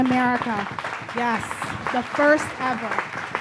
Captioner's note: audience claps